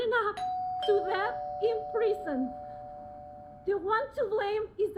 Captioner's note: doorbell ringing